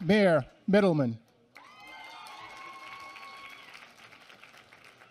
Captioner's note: applause